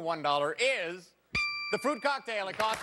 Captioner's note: bing